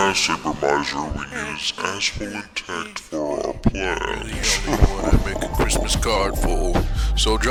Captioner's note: evil ass laugh